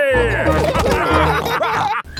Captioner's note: all laughing